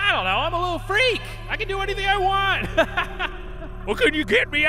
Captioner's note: laughing